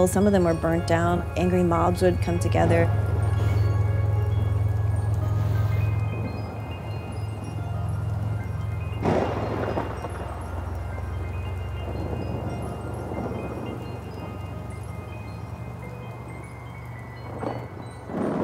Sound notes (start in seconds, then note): 4.3 mellow music; 4.3 thunder rumbling